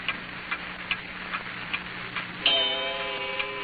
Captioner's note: clock chiming